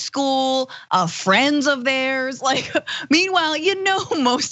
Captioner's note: laugh